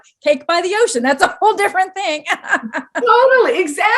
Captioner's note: laughs